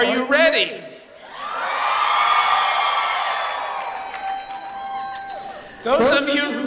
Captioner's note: cheering